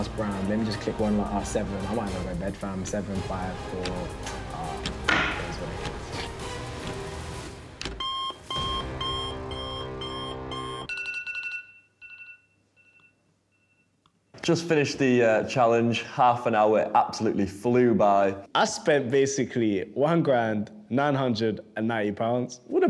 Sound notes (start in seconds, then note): 7.8 beeping; 10.8 ringing